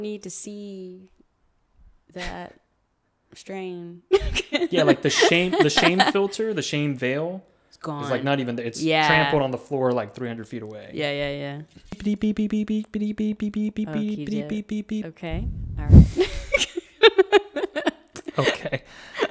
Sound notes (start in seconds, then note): 4.2 laughs; 11.9 beeps; 16.1 both laugh